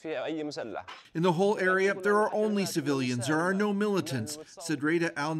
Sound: crying; speaking alternate language

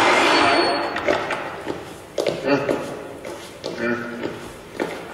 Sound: random sound effects

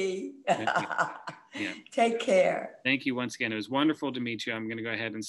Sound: laughs

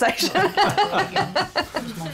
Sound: laughs

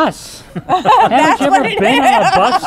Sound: laughing

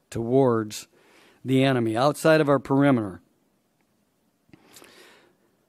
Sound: none

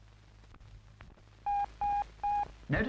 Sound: beep, Beep, Beep

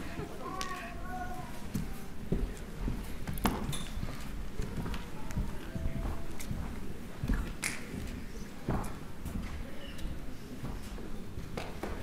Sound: cheers and applause

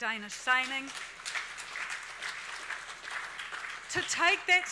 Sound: audience applauds

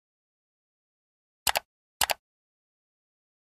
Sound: mouse clicks

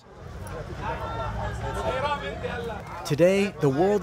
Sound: marketgoers clamoring

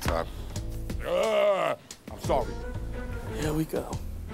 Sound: grunts

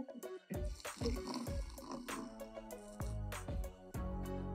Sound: liquid pouring

